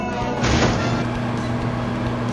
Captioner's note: 🔥 Oven Sound 🔥